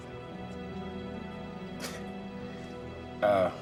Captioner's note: chuckles